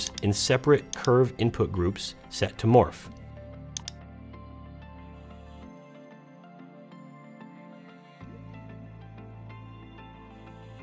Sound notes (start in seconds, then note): 3.7 mouse clicking; 3.8 gentle instrumental music